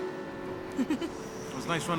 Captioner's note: giggles